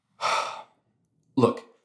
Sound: sighs

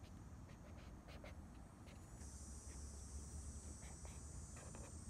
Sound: loud cicadas again

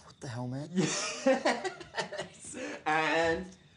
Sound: laughter

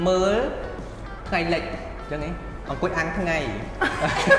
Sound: laugh

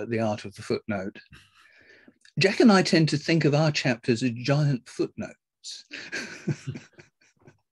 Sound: laughs

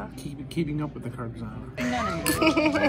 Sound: speaking in foreign language

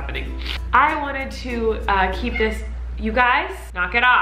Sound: cat meowing

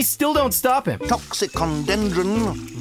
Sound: speaking Latin

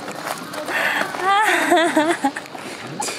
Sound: laughing

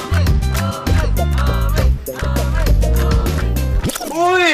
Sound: crowd

